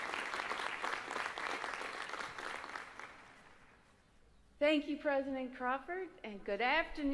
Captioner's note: applause